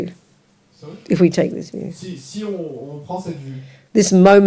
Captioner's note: audience member speaks in French